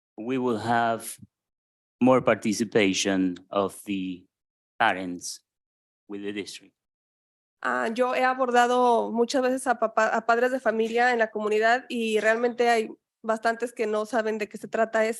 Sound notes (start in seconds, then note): 8.1 speaking in Spanish